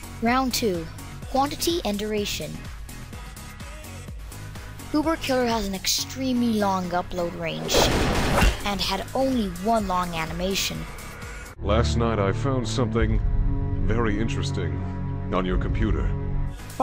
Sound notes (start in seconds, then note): 7.6 gunshots